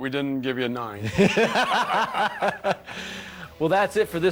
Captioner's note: laughter